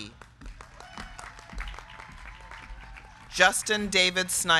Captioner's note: crowd clapping; crowd cheering